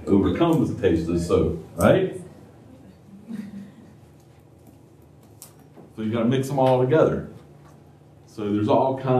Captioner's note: laughter